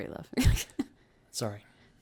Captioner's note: laughs